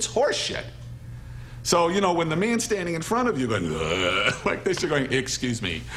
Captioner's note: imitating Man Groaning